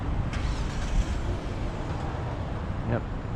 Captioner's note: car starts